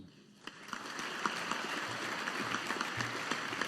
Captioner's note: audience applauding